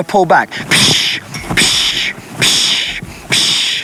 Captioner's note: loud shushing